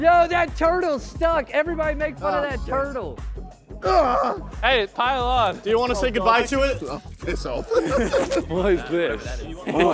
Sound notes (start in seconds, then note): 3.8 JJ grunting; 7.4 contestants laughing